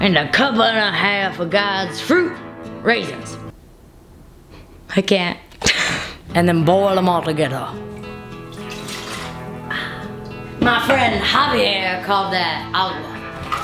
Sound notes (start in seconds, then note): 5.7 laughs; 6.8 soft banjo music; 7.8 water splashing